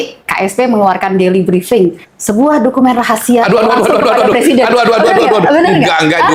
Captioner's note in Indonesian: tertawa